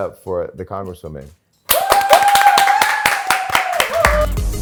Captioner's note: cheering